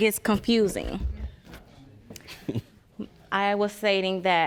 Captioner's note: chuckles